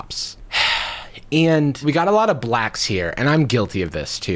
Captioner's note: sighs